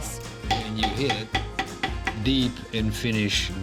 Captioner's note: banging